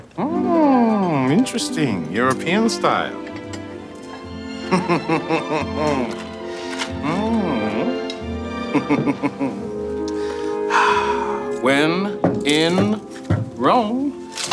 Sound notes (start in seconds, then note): 3.3 orchestral music; 4.6 Jordan giggling